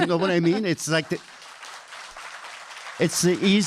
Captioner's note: panel laughing; audience clapping